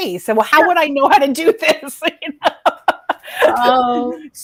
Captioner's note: laughing